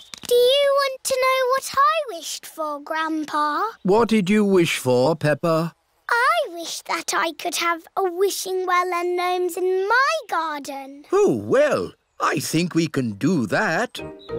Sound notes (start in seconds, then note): none